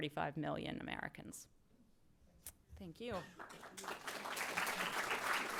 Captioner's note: applause